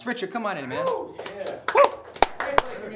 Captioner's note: applause